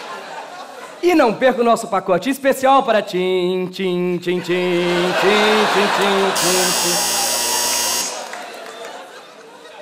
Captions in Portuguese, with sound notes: E não perca o nosso pacote especial para [marcha fúnebre] Tim, tim, tim-tim, tim... [campainha]